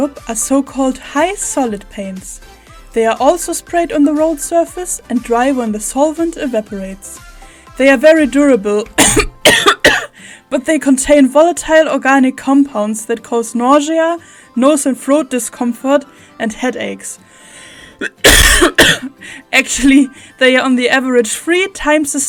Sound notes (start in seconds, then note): 8.9 coughs; 18.0 coughs again